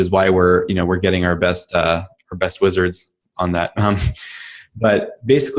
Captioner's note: laughs